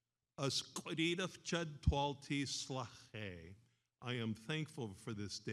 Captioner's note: speaks in foreign language